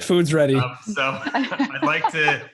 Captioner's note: all laugh